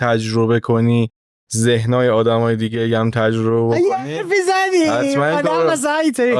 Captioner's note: laughing